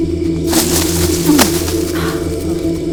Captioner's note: grunting